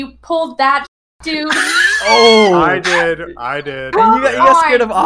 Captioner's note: laughs